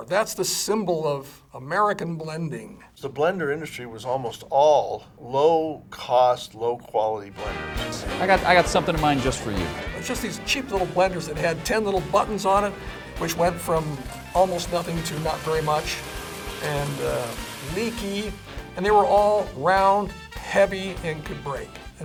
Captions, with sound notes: that's the symbol of American blending. - The blender industry was almost all low cost, low quality blenders. (upbeat music) - I got something in mind just for you. - Just these cheap little blenders that had 10 little buttons on it, which went from almost nothing to not very much. (blender whizzing) And leaky, and they were all round heavy and could break.